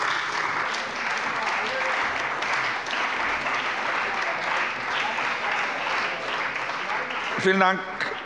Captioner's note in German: Beifall bei der CDU und dem BÜNDNIS 90/DIE GRÜNEN